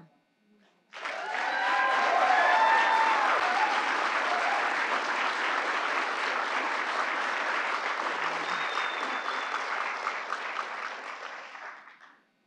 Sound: applause

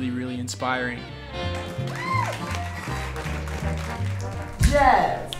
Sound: class cheers

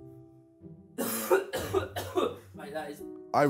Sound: coughing

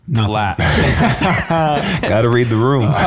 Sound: all laughing

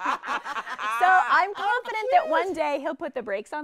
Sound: all laughing

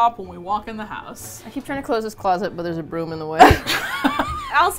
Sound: laughs

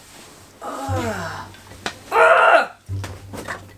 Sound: groans

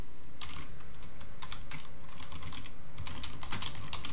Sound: keyboard clicking

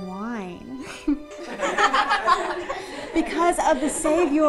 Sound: class laughs

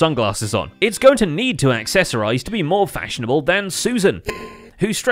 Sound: ding

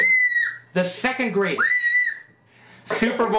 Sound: scream; screams

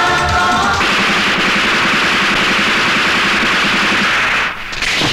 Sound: rapid gunfire

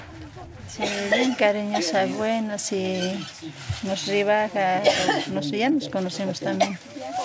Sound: villager speaking in foreign language

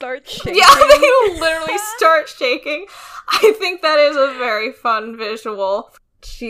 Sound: laughs

